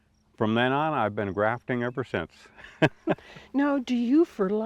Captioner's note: chuckles